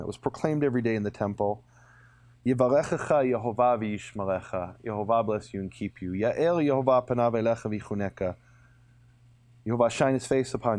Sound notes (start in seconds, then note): 2.7 speaking in a foreign language; 6.1 speaks in a foreign language